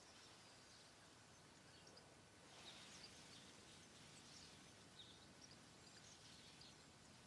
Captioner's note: birds chirping; leaves crackling